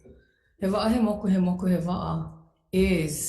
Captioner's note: speaks foreign language